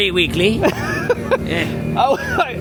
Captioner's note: laughing